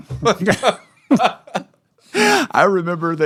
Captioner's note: laughter